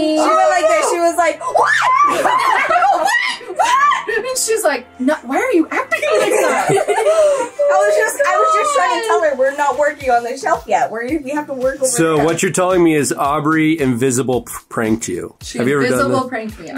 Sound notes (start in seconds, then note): 6.0 girls laugh